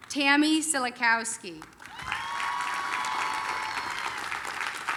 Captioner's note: applause, cheering